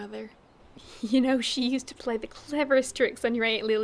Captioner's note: laughing